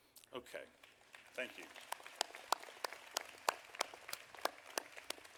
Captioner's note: audience applauding